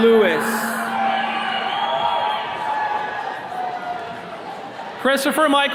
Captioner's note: attendees cheering